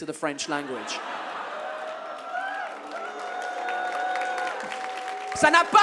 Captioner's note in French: le public applaudit et hue